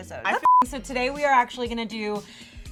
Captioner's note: beeping